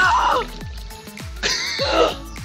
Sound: water splashes; yells; laughs

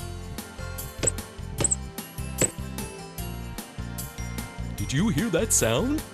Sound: sound of a bouncing ball

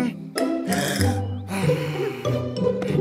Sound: sighs sadly

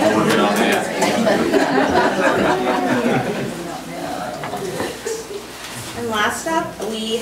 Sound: overlapping chattering; group laughs

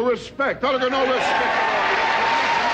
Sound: audience cheering

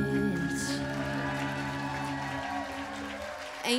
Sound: applause

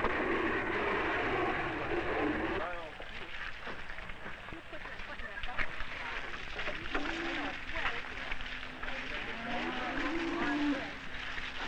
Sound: washing sounds

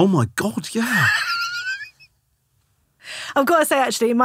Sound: laughing

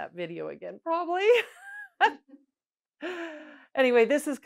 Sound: laughs

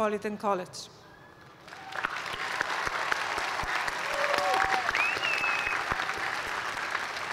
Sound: cheers and applause

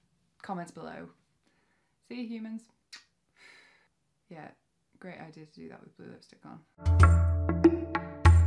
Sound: kiss

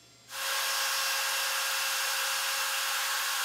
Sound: saw zings

